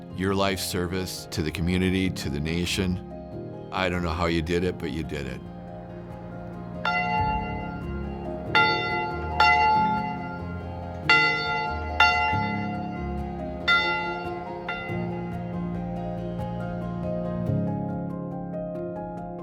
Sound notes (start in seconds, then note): 5.8 pensive music continues; 6.8 bell ringing; 15.7 pensive music continues